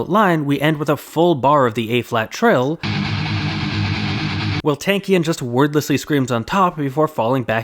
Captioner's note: bang